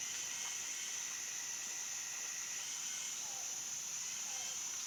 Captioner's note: birds and bugs chirping